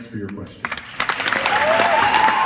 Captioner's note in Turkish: Alkış